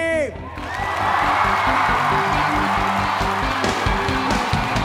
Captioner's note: students cheering